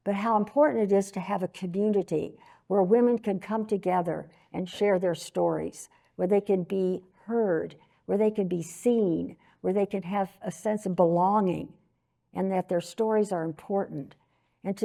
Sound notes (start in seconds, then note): none